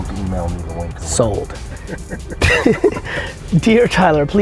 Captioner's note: laughs